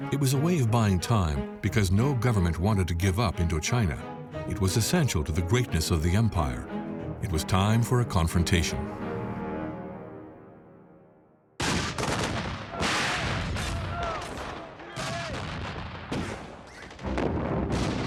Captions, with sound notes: It was a way of buying time because no government wanted to give up Indochina. It was essential to the greatness of the empire. It was time for a confrontation. (GUNFIRE)